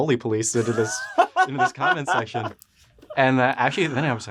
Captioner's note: laughs